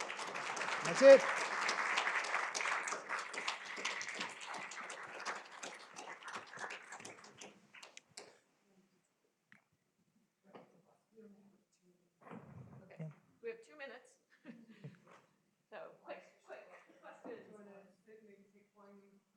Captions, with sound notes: That's it. [applause] -Okay. We have two minutes. Quick question. I don't know if you can keep going.